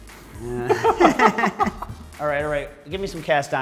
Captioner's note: both laughing